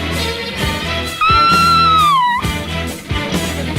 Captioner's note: Sweet Polly Purebred Screams